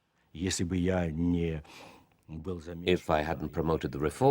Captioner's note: speaking Russian